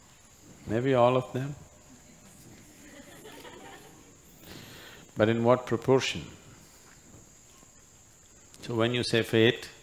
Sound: few laugh

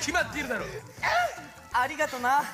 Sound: happy noise

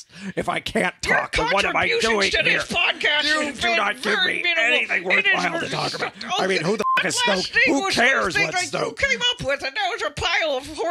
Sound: Han and Leia shouting over each other

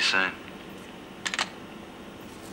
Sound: phone hangs up

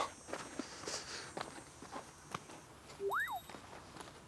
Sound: huffing and puffing

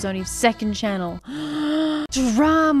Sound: <i>Gasp</i>

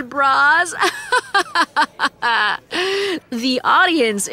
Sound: laughs

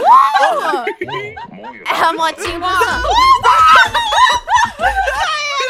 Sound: laughter and screams

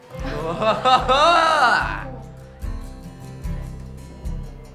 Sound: Brayden laughing; soft acoustic music

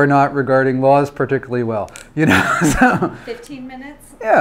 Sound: laughs

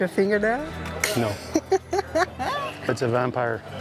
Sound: laughs

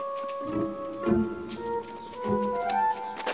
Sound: footsteps thudding

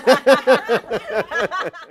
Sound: laughing

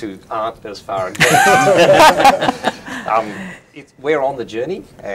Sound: laughing

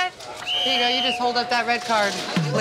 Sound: whistle blows

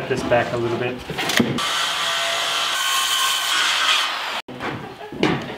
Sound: sawing noise

